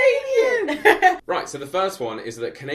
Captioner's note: laughs